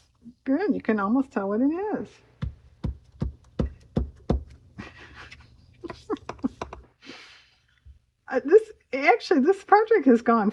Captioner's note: laughs